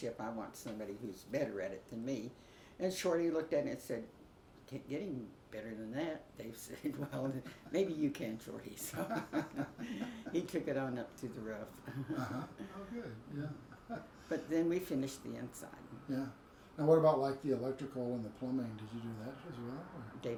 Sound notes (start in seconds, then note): 8.8 both laugh; 8.9 chuckles